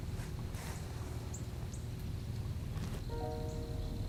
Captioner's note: rustling